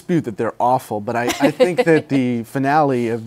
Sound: laughs

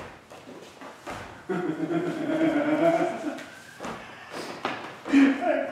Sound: laughter

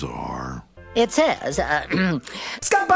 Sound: clears Throat

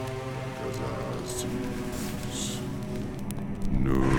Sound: incantations

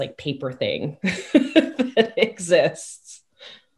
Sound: laughs

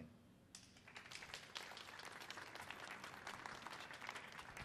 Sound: crowd applauding

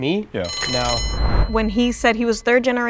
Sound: alarm ringing

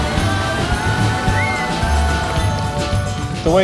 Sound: water rushing; scream

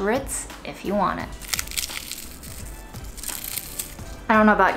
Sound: cracker crunching

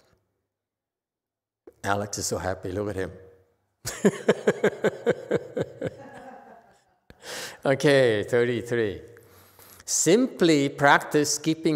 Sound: laughs

